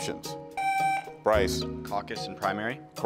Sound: buzzer beeps

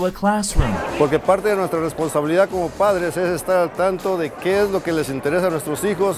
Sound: Spanish

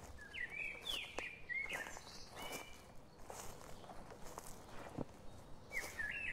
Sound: birds chirping; footsteps plodding

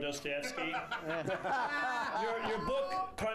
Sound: laughter

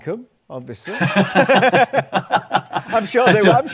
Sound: laughter

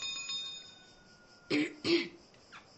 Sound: clears throat

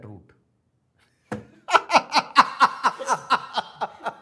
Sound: laugh

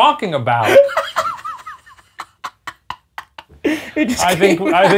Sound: laughing

